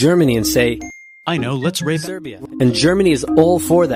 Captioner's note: ding